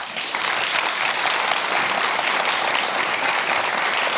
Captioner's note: applause